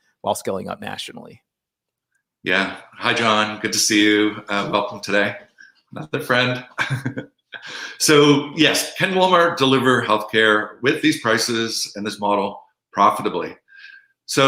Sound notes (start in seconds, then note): 6.6 chuckling